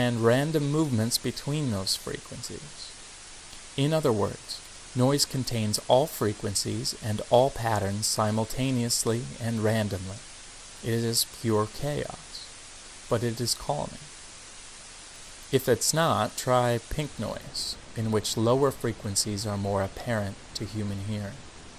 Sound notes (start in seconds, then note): 16.5 static sounds changes to lower pitch